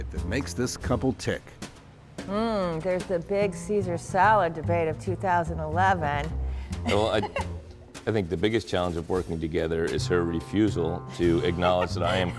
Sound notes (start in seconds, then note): 6.8 laughs